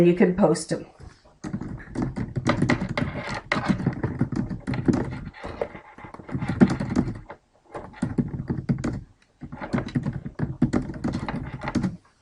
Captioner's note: typing